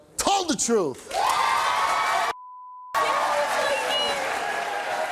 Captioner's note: audience cheering